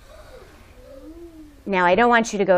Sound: students gasping

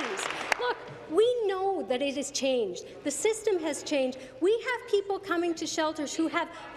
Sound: applause

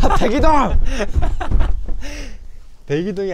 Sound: haha

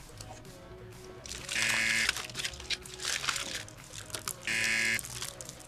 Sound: buzzer

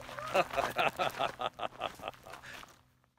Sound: crunching; laughing

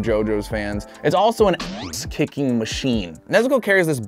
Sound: boinging

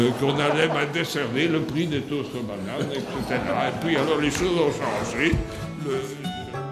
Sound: laughter

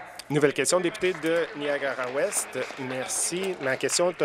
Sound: applause

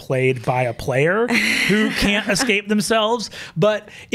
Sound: laughs

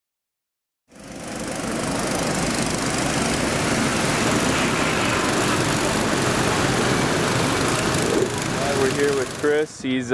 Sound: background sounds of engines racing

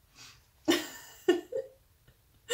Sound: laugh

